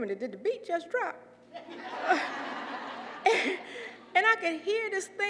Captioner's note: laugh